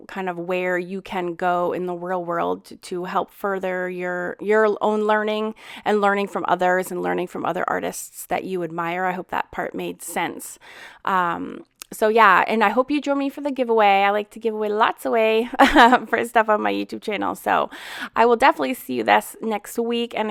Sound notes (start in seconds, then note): 15.6 laughs